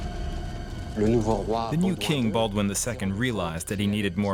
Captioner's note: speaking French